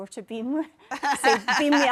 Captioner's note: laughs